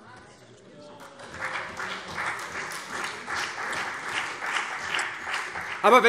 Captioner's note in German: Beifall CDU und vereinzelt BÜNDNIS 90/DIE GRÜNEN